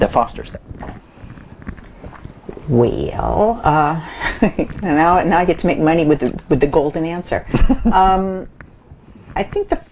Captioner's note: laughs